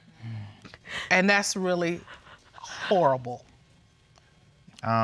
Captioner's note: sobbing